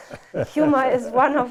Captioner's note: laughs